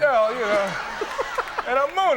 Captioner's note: everyone laughing